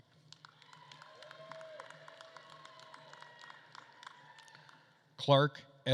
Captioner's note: attendees cheering and applauding